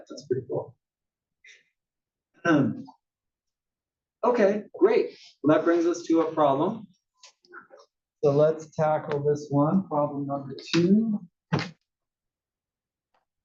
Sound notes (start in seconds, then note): 2.3 cough